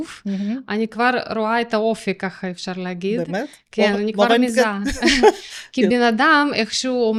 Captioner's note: laughter